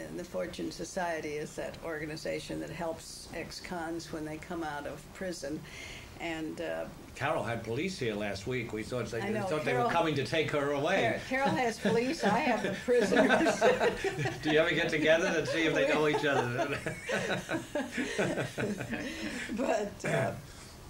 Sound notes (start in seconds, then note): 10.9 laughs; 15.0 laughter